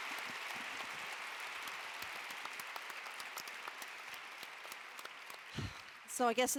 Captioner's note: applause